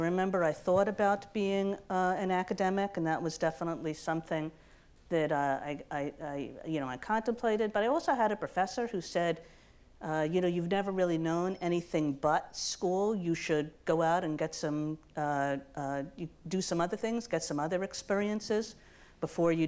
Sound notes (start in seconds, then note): none